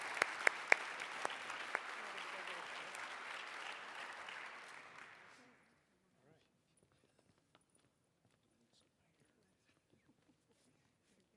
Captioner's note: applause